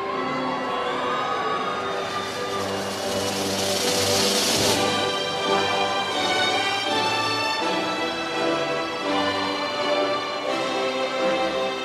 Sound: applause

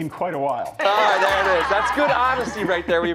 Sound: laughter

